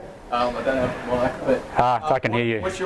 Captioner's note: voiceover